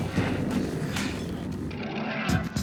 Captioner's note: panting